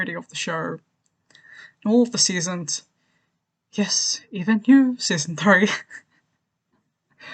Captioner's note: sighs; laughs